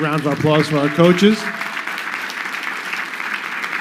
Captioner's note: crowd clapping